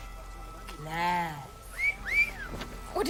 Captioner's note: wolf whistle